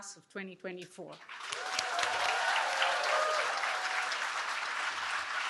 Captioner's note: cheering